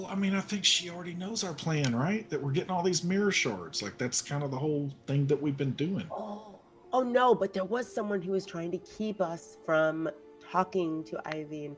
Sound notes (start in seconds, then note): none